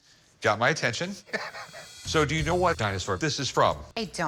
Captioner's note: chuckles